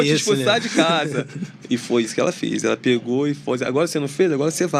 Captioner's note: risadas